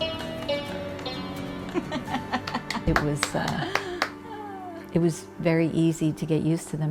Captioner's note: applause